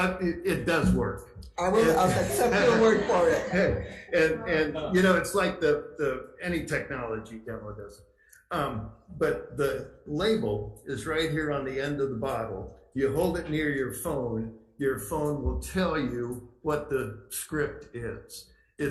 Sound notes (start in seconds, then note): 1.8 crowd laughs